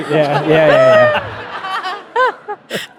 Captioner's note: audience laughing